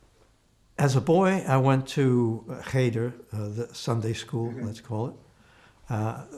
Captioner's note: hebrew